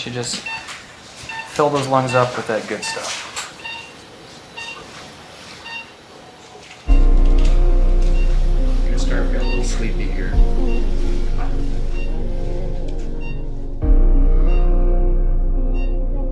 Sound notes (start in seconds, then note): 3.6 heart monitor beeps; 7.0 ominous music; 11.0 heart monitor beeps; 11.0 ominous music